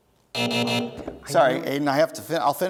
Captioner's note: buzzing